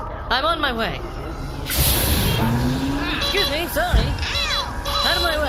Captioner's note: Canaloma charges through, beeping frantically